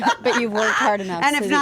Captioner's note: laughing